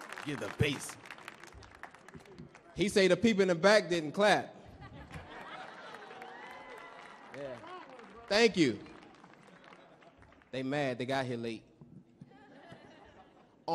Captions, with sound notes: You're the bass. - Tell the people in the back. - He say the people in the back didn't clap. [audience laughs] [audience clapping] [audience cheering] Yeah. - Come on! - Thank you. They mad they got here late. [audience laughs]